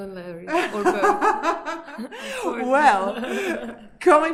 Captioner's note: laughs